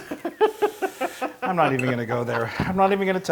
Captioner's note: laugh